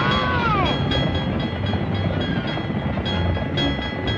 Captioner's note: bell dinging